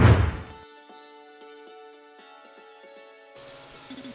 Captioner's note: whooshing; gentle music